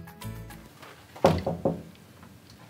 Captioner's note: knocking at the door